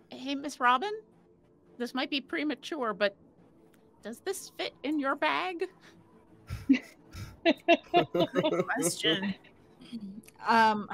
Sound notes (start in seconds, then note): 7.1 group laughing